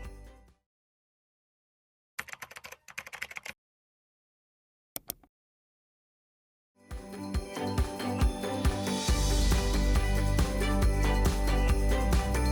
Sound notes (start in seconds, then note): 2.2 keyboard keys clacking; 6.8 bright lively music